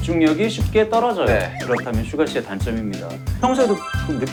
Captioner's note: Cười